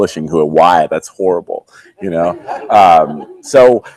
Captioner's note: audience laughing